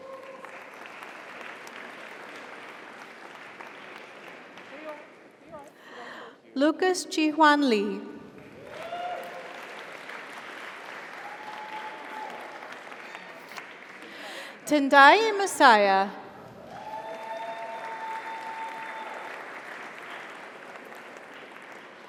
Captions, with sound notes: (audience applauds) (audience cheers) - Here, you are. Congratulations. - Thank you. - Lucas Chihuan Lee. (audience applauds) (audience cheers) Tendai Masaya. (audience applauds) (audience cheers)